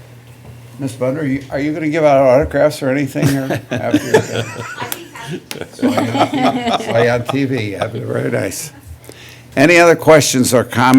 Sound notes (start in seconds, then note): 3.2 laughter